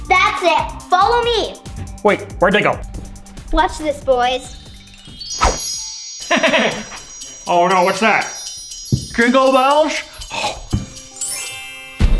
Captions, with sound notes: That's it, follow me. Wait, where'd they go? Watch this, boys. [magical chimes] [bells jingling] Oh no, what's that? Jingle bells?